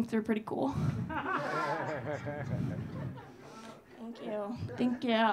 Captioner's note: audience laughing